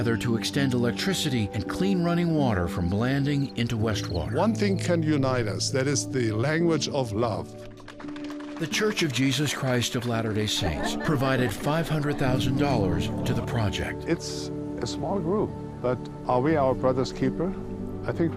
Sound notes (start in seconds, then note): 7.6 audience applauding